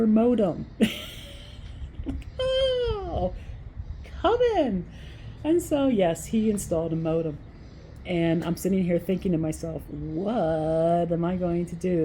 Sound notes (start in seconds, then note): 0.8 laugh